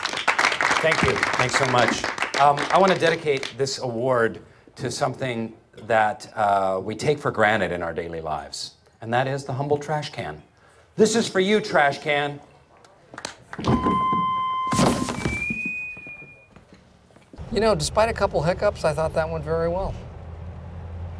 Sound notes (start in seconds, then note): 0.0 applause; 13.6 feedback